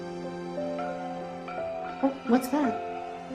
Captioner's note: clanging